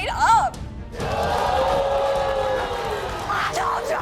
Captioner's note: audience booing